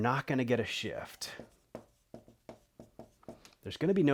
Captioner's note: marker scratching